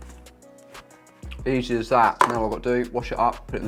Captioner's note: container clatters